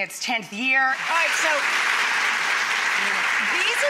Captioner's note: applause